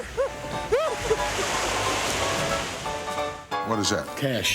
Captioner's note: laugh